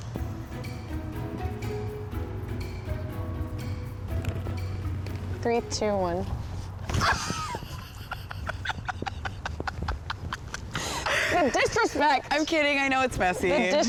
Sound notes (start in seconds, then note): 0.0 bright music; 6.8 both laugh